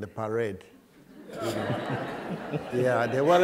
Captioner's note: laughter